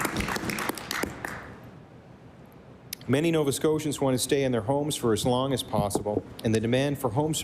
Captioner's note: applause